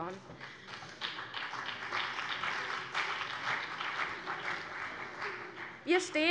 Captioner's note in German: Beifall CDU und BÜNDNIS 90/DIE GRÜNEN